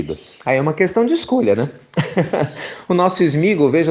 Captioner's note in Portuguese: risos